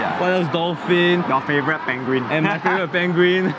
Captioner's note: laughs